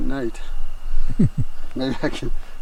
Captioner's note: chuckling